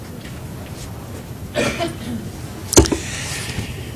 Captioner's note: cough